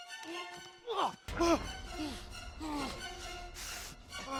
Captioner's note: grunting